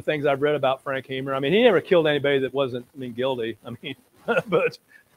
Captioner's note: laughs